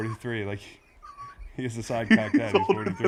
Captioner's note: laugh